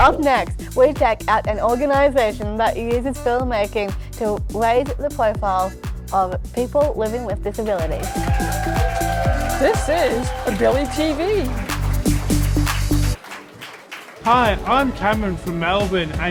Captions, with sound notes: Up next we check out an organization that uses filmmaking to raise the profile of people living with disabilities. [applause] [cheers] This is AbiliTV. Hi. I'm Cameron from Melbourne